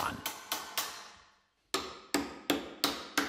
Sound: knocking

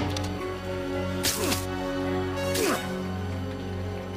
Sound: grunts

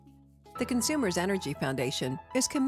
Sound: voiceover

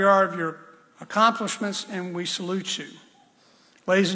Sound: none

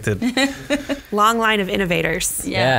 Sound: laughs

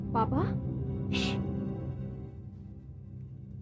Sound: shushing

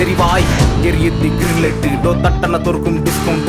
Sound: boom

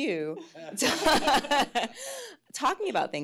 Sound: laughs

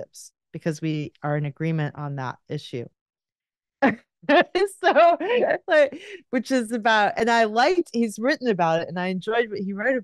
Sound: laughs

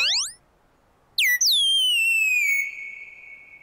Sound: chirping

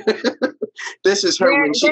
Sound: all laughing

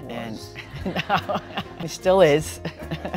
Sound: laughing

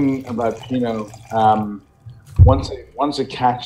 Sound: wine pouring

